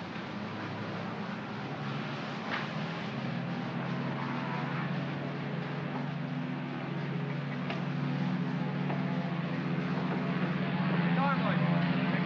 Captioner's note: aircraft rumbles in distance